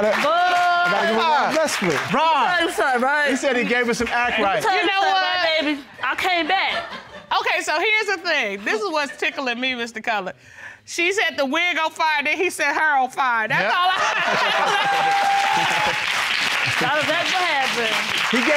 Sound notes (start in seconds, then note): 13.6 laughs; 14.0 audience applauding